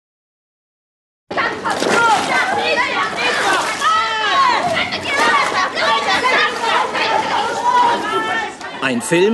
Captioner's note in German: Geschrei